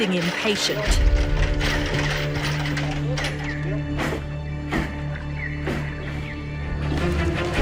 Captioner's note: metal cage clunking; intense music